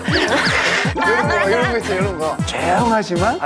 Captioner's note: makes his boss laugh